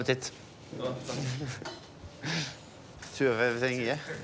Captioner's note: laughter